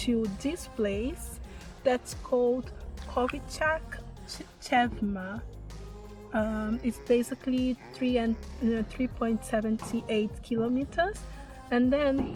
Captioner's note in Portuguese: tentando pronunciar